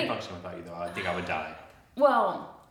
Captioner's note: sighs